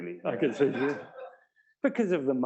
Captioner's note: laugh